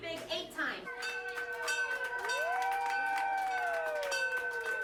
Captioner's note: bell tolls, cheering, applause